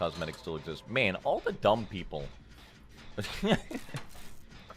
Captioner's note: laughs